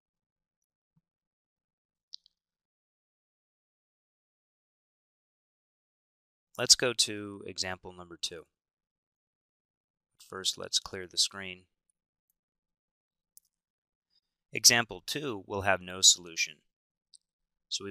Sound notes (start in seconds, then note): 2.6 silence while changing viewing screen